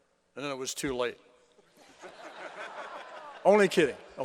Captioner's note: laughter